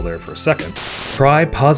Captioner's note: TV static